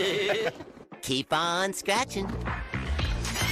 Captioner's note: laughs